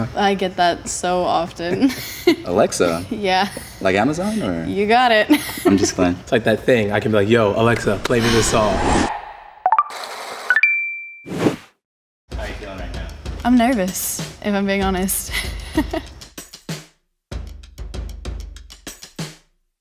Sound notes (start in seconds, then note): 1.9 laughs; 5.7 laughs; 9.1 sighs; 9.8 chimes; 15.9 laughs; 17.3 exciting drum music